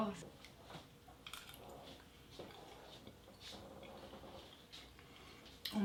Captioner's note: spoon hitting teeth